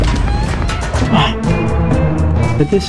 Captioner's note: inhales Oxygen